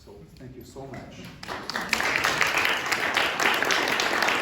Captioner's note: applause